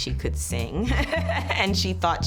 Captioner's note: laughs